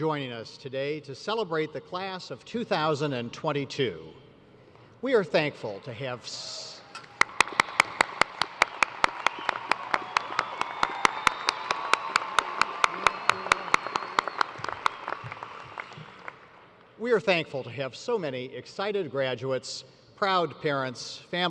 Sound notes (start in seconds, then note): 11.3 cheers and applause